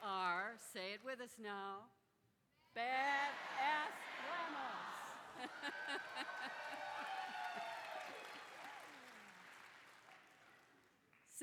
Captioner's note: applause